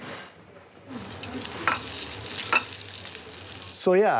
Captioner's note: meat sizzles